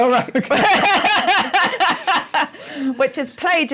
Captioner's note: laughter